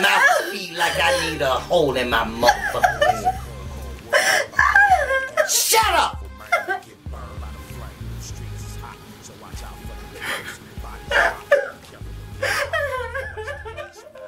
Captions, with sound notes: like I need a hole in my mother fucking head. (Mary cries) Shut up! (Mary cries)